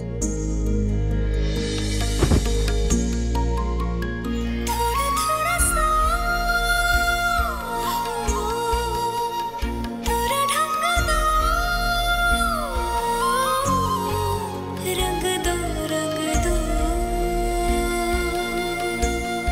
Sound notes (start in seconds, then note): 2.2 thud; 4.6 romantic song playing